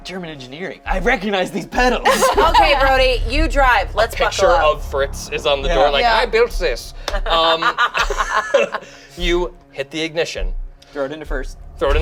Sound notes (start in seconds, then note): 7.1 laughs